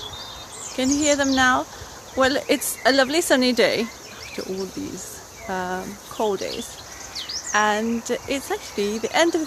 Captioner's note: birds